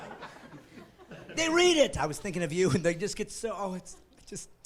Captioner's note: laughing